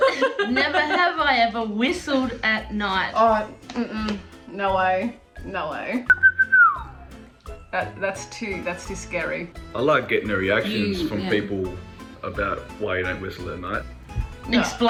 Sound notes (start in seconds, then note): 0.0 laughs; 6.0 whistles